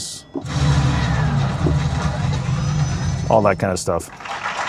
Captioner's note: sound effect whooshes; audience applauds